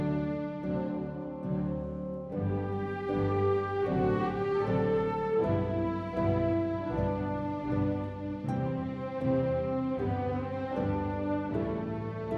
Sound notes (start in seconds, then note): none